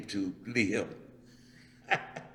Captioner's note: laughs